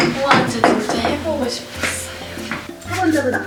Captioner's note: pit-a-pat